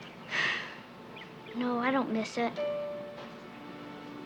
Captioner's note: sigh